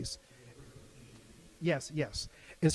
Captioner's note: faintly speaking